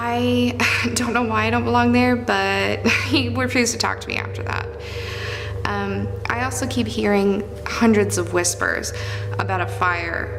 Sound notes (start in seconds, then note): none